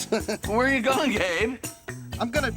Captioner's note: giggling